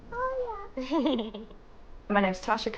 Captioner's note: laughs